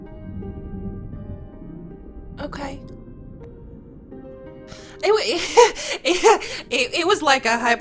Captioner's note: chuckles